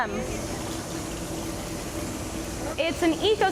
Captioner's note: running Water